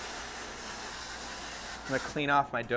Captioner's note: pipe hissing